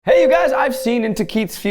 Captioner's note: bell dings